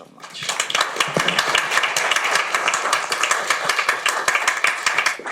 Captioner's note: audience applauds